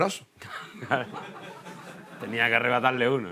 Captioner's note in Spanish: Risas